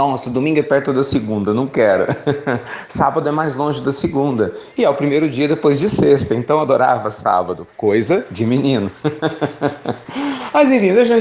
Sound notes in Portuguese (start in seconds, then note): 8.8 Risos